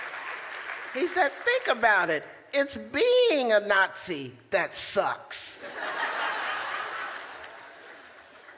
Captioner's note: laughter